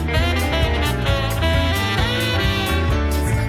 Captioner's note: none